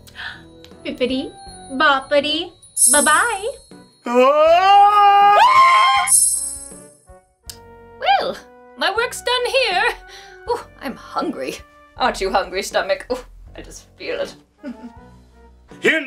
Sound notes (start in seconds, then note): 4.1 screams